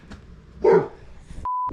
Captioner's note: woof